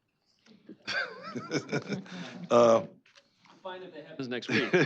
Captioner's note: laughter